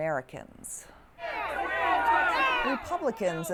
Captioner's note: crowd's angered shouting